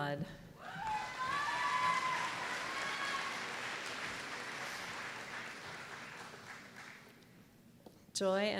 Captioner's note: applause